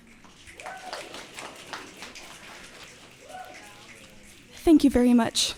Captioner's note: audience clicking and cheering